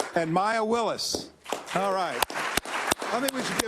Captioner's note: applause